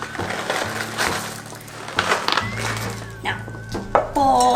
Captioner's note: chocolate rumbling